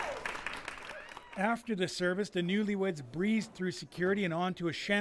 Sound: cheering and Applause

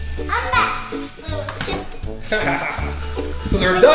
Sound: laughter

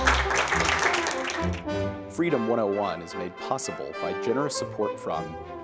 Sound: applause

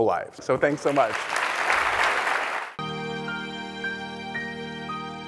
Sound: applause

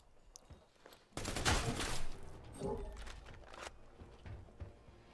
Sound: guns firing

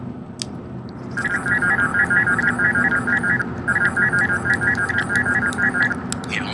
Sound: phone Ringes

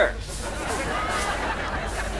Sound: laughing

